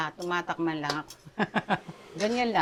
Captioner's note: laughs